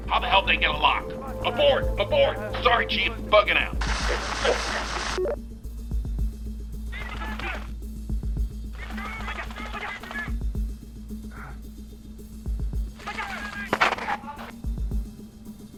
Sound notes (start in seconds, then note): 3.4 radio static buzzes; 5.2 computer beeps